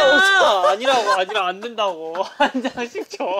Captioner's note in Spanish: Jajaja